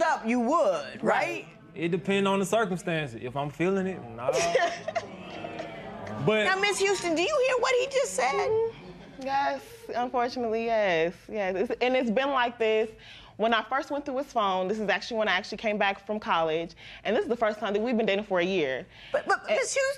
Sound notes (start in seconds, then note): 4.7 spectators murmur